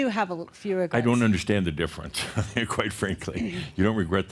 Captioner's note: chuckles